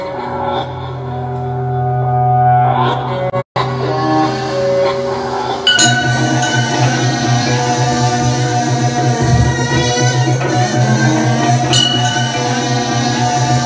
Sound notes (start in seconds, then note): 5.6 ding!; 11.7 ding!